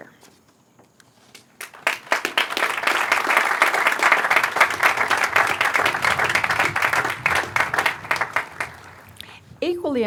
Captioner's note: applause